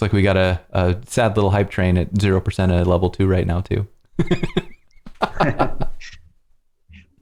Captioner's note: laughter